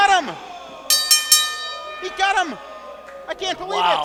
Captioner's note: bell rings